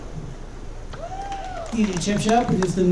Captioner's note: audience cheering